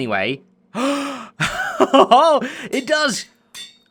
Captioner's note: gasps